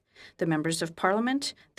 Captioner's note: speaking French